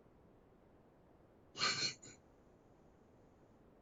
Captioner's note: laughs nervously